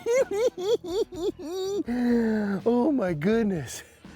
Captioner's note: cackling